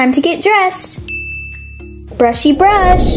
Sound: ding noise

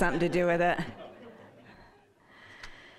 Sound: audience laughing

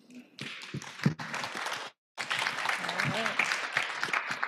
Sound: applause

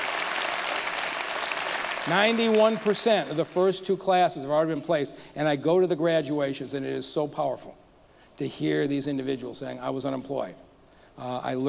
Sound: applause

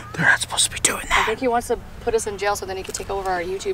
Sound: gasping

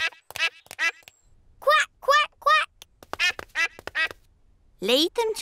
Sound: ducklings quack; ducklings quack

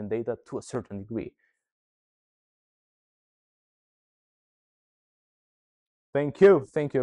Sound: silence

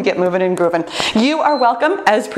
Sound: timer beeps

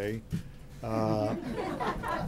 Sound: laughter

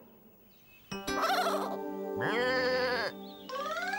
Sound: bleating

